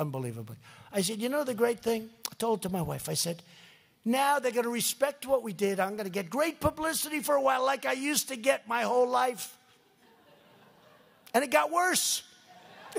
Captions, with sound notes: I said, "You know, do you know the great thing?" I told it to my wife. I said, "Now, they're going to respect what we did. I'm going to get the great publicity for a while, like I used to get my whole life." (laughter) And it got worse.